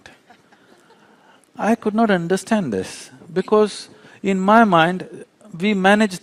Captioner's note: few Laugh